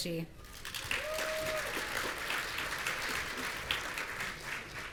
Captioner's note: audience cheering